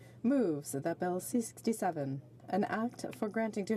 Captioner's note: speaking French